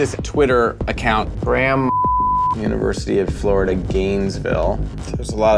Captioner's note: beep